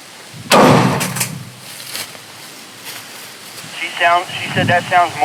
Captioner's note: tree knocker thuds